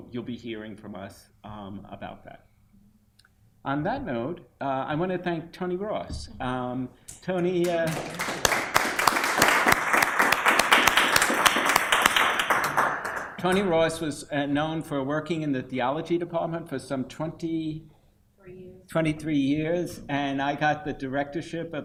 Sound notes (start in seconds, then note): 7.6 applause